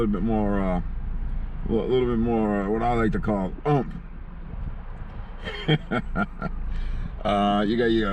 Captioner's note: laughing